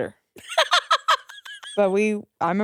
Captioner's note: laughs